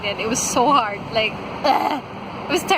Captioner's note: ugghhh